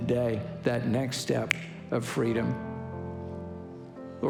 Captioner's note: fingers snapping